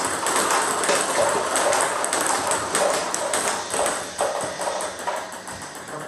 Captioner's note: ball ping pong hitting continues